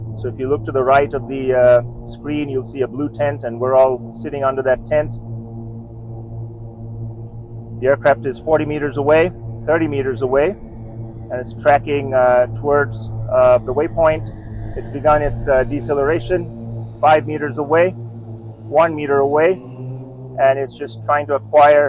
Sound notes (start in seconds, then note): 6.0 motors hum